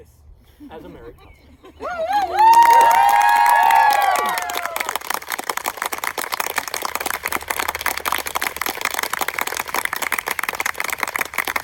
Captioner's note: screams, applause